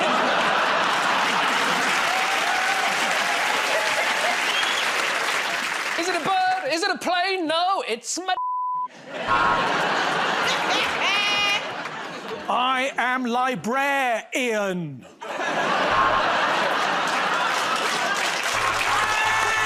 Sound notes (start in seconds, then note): 0.0 laughter; 2.5 cheers and applause; 9.3 buzzer buzzes; 11.2 laughter; 15.8 buzzer buzzes; 17.6 laughter; 19.4 buzzer buzzes repeatedly